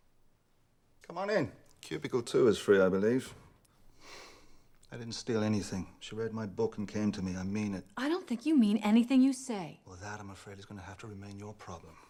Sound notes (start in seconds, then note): 3.1 sighs